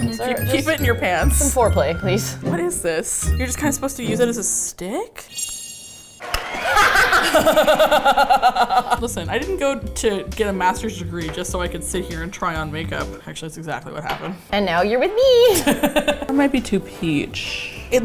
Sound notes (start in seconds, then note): 0.0 with pleasant surprise; 5.1 shink; 5.1 studio audience applauding; 6.5 both laugh; 15.5 both laugh